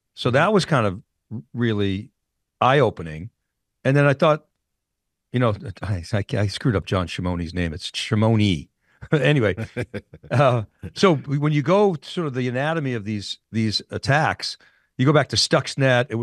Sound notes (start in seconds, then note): 9.0 laughing